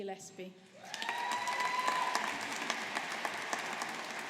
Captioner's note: audience applauding